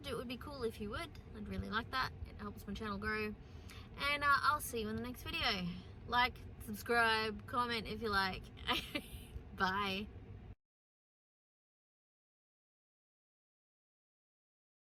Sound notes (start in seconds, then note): 8.6 chuckles